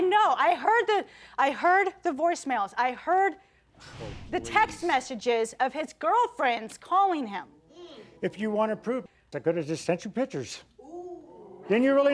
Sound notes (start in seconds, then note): none